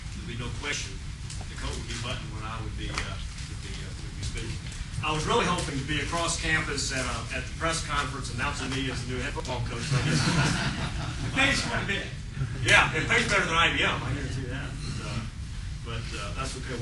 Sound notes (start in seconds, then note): 9.8 laughter